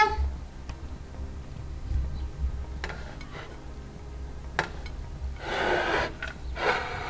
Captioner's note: gentle music; plate scraping